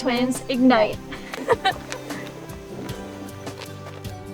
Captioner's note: girls giggling